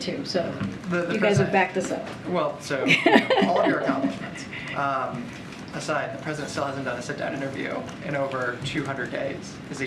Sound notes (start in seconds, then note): 2.8 laughs